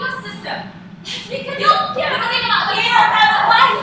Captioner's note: arguing